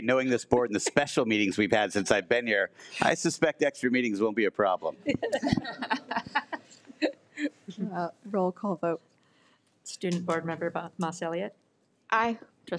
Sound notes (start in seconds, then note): 5.0 all laughs